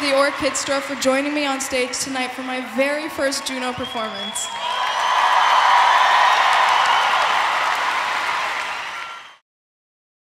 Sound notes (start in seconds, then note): 4.8 audience cheering